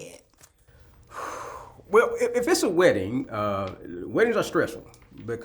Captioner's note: exhales